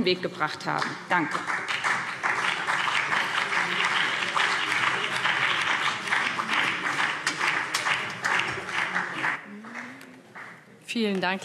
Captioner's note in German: Beifall BÜNDNIS 90/DIE GRÜNEN und vereinzelt CDU